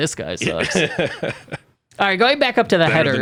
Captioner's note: laughs